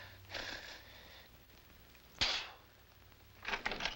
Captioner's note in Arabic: يبصق